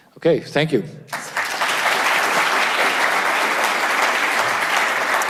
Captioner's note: audience applauds